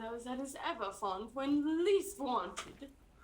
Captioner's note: laughs